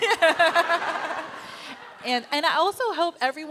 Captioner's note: laughter